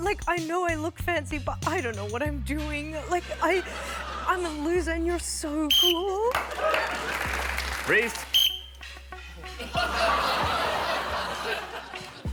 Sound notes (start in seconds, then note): 5.6 whistle blows; 6.3 applause; 9.4 laughter